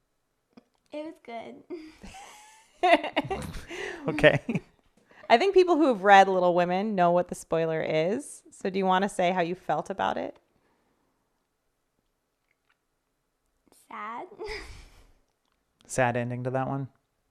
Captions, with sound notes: It was good. (chuckles) (laughing) - Okay. - I think people who have read "Little Women" know what the spoiler is, so do you want to say how you felt about it? - Sad. - Sad ending to that one?